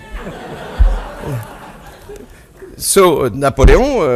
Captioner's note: audience laughs